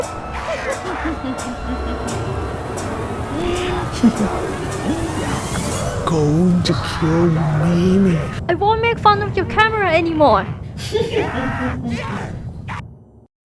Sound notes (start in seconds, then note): 0.0 laughs maniacally; 10.7 still laughs maniacally